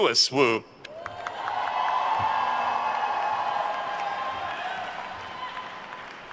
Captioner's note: attendees cheering and applauding